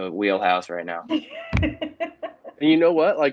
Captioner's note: laughter